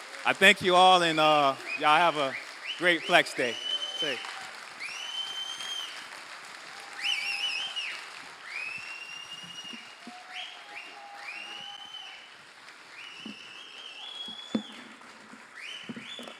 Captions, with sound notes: I thank you all. And y'all have a great flex day. [APPLAUSE]